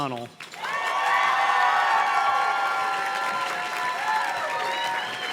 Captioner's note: audience cheers and claps